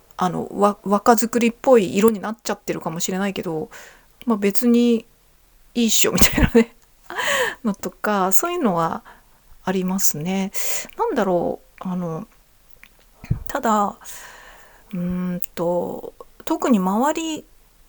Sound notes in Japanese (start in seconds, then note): 6.1 笑い; 7.1 息をのむ音